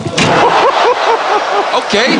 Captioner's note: fans cheering